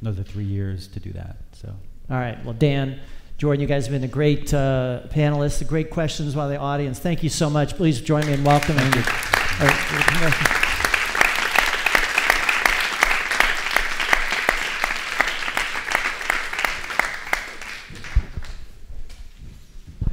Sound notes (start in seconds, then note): 9.0 audience applauds